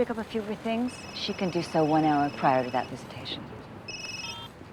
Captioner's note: cell phone rings